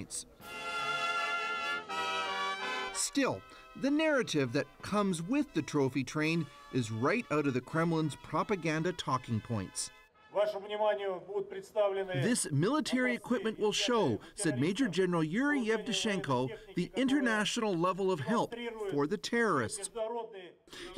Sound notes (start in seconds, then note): 13.9 speaking russian